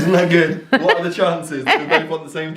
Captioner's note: laughing